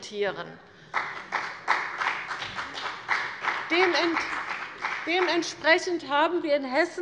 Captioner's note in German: Beifall bei dem BÜNDNIS 90/DIE GRÜNEN und der CDU